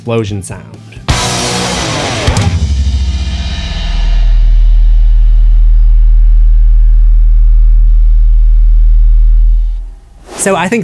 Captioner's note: bassy Explosion Sound